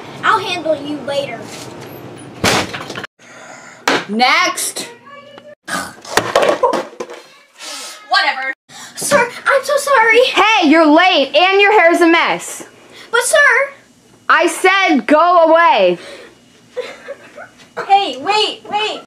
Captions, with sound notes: I'll handle you later... **Sigh** Next! Whatever! Sir! I'm so sorry! Hey you're late! And you're hair's a mess! But sir! I said go away! **Sobbing** Hey! Wait! Wait!